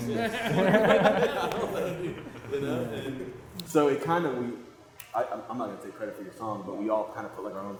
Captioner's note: laughs